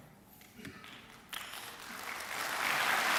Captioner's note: clapping